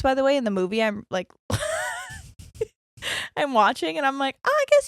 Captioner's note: laughs